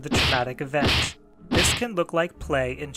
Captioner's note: punching